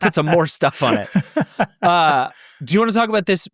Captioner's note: laughing